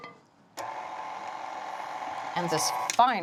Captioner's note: mixer whirring